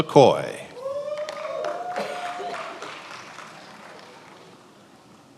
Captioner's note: attendees applauding